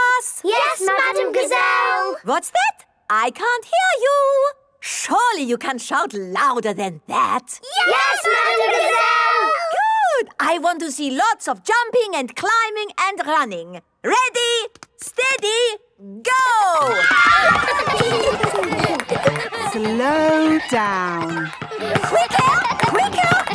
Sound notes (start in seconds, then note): 16.6 kids screaming; 17.2 laughter